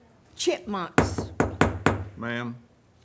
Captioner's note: gavel pounds